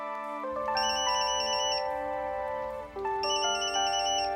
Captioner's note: pager ringing